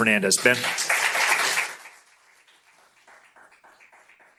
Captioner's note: applause